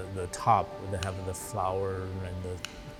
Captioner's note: scissors snipping